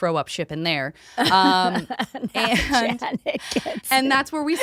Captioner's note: laughing